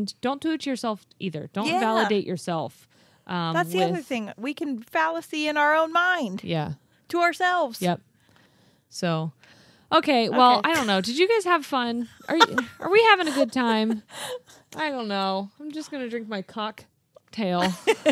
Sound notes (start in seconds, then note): 12.2 chuckling